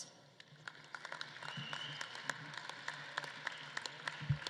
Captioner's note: audience claps